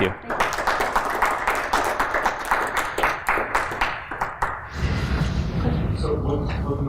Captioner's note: applause